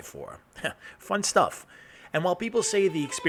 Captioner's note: chuckles